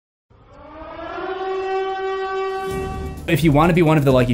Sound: siren

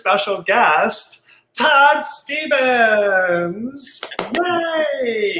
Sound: cheers; claps

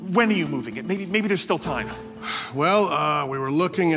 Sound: sighs

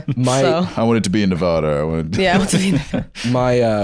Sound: laughs

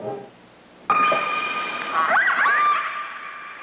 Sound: whale sounds

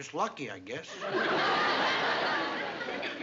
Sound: laughter

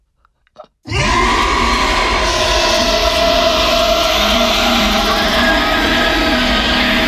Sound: monster roaring; girl screaming

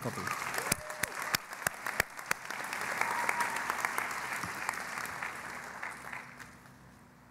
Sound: cheering and Applause

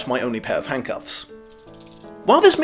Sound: handcuffs rattle

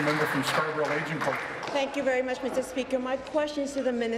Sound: applause

